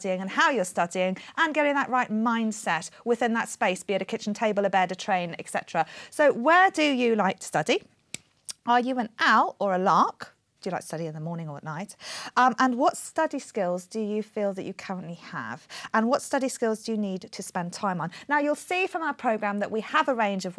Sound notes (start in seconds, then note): none